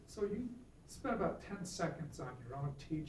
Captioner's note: voiceover